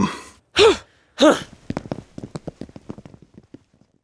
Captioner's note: Mary and Martha humphing